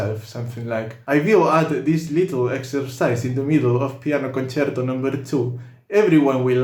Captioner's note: with Russian accent